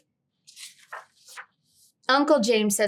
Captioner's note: page rustling